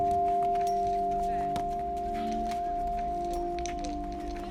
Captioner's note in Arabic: الأطفال يتحادثون